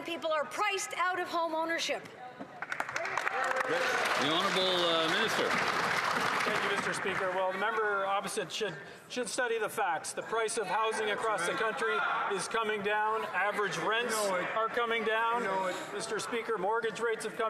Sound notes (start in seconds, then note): 5.6 some Applause